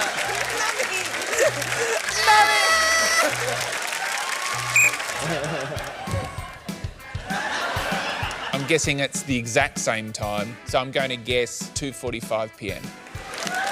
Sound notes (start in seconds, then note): 4.7 blows whistle; 13.0 cheering and applause